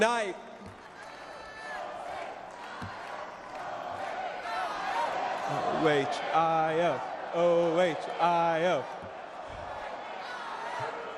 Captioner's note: applause